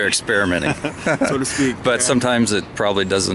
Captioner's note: both laughing